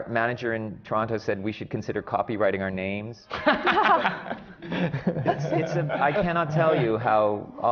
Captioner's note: laughs